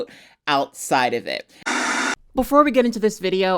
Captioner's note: screen buzzing